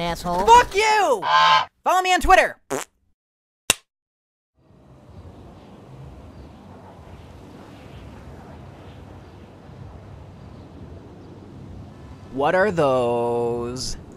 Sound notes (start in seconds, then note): 2.7 fart